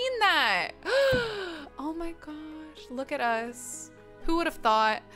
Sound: gasps

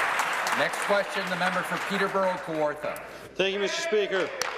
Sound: applause

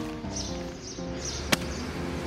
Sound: books thud

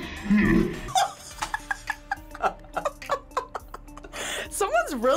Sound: React laughs

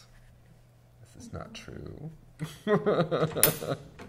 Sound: laughs

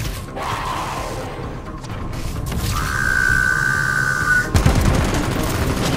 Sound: increased animalistic screeching

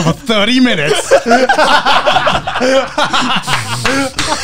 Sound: everyone laughs

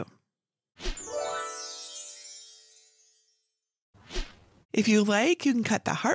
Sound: stars tinkle

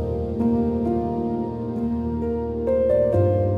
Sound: swirling glass

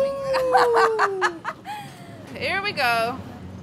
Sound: laughing

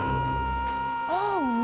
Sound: hrghh!

